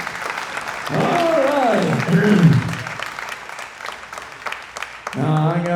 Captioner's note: laughs; clears throat